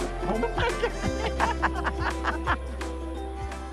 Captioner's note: laughing